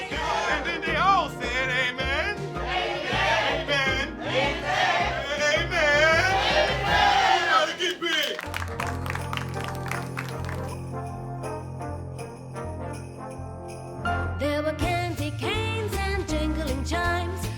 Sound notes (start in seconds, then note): 8.8 all applauding; 10.9 upbeat holiday music